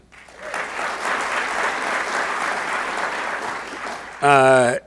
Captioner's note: audience applauds